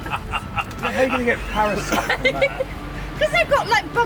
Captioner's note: laughing